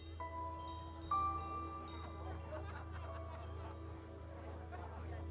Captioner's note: crowd celebrating